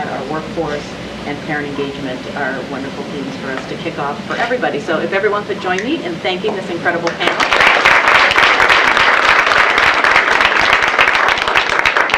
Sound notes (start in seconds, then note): 9.2 applause